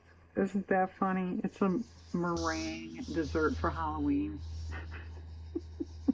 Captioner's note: laughs